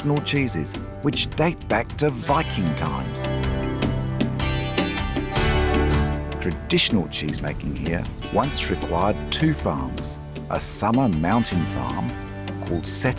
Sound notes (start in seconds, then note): none